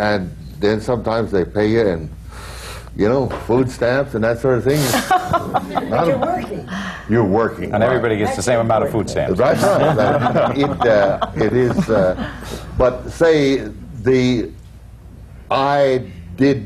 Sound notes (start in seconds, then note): 4.8 laughs; 9.5 laughter